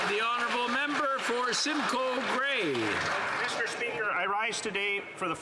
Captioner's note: applause